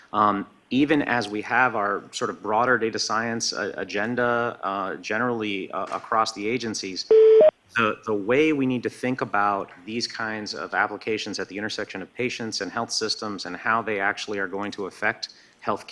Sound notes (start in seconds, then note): 7.1 beeping